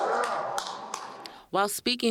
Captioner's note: cheers and applause